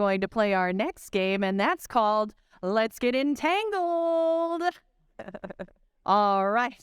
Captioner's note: chuckling